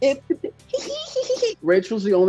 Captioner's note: high pitched giggling